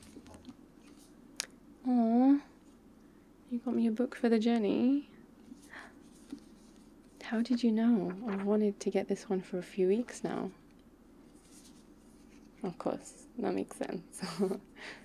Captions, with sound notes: aww you got me a book for the journey *papers riffling* how did you know, I’ve wanted to get this one for a few weeks now of course that makes sense